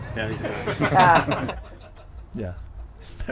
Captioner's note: all laughing